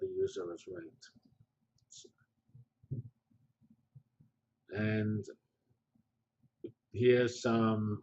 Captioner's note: pause